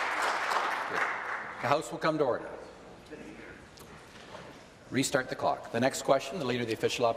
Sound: applause

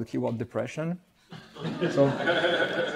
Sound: laughter

